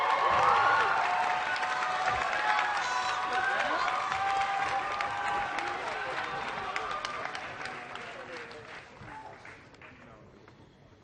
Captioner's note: applause